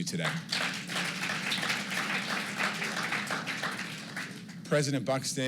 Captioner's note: applause